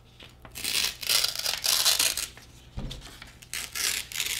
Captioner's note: tearing paper